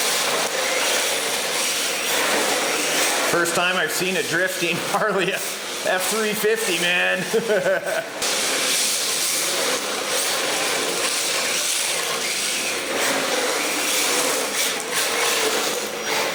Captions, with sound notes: First time I've seen a drifting Harley F-350 man! (laughing)